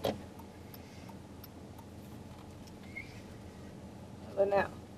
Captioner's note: car signal clicking